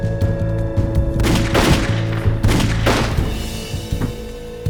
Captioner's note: guns firing